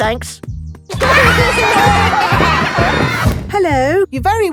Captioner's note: laughter